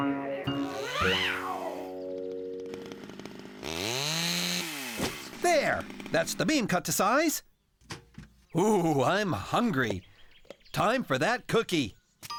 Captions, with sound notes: MEE-OOOWW! ( Chain Saw Revving ) THERE! THAT'S THE BEAM CUT TO SIZE. OOH, I'M HUNGRY! TIME FOR THAT COOKIE.